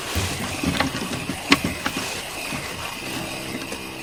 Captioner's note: rattling continues